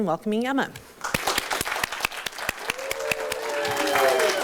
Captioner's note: audience Applause